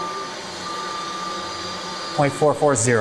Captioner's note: pipes hum